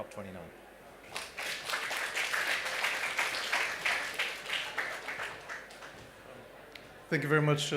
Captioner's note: applause